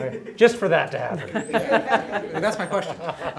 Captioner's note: laughter